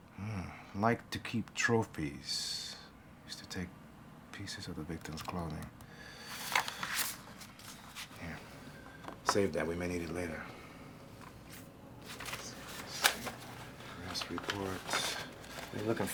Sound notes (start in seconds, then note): 6.2 photograph rustling; 12.0 paper rustling